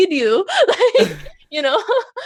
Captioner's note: laughs